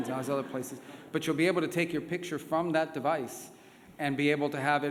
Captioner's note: laughter